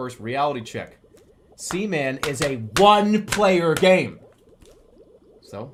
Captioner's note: tapping booklet